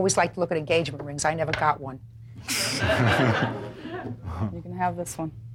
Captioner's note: audience laughs